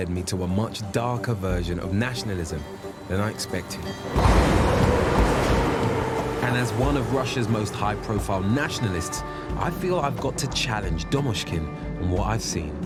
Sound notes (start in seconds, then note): 4.1 train roaring